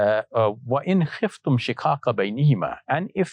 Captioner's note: speaking Arabic